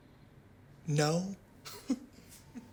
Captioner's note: laughs